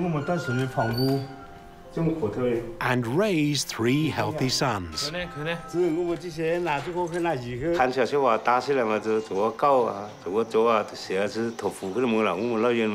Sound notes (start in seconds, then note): 0.3 speaking Chinese dialect; 6.3 speaking Chinese dialect